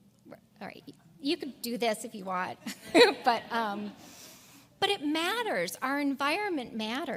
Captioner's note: laugh